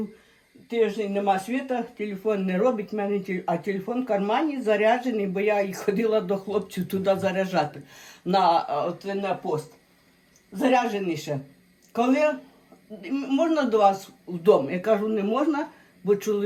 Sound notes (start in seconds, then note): 8.7 Ukrainian